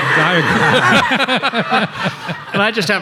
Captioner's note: everybody laughing